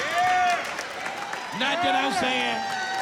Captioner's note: cheering